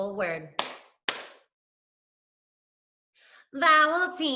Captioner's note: clapping